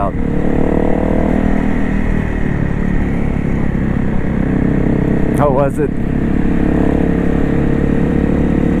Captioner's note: engines